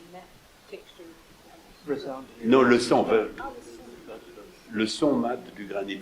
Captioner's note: people chattering in French